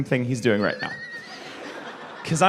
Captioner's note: wheezing, probably